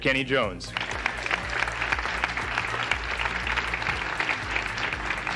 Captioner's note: audience applauding